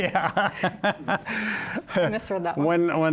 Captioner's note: laughs